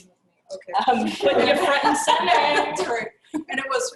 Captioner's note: laugh